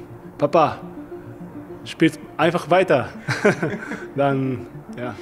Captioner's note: laughs